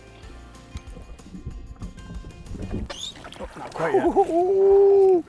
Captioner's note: laughs